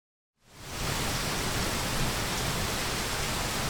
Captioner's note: rain rushing